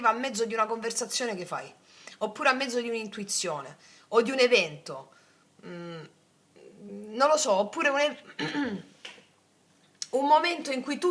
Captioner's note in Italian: schiarire la voce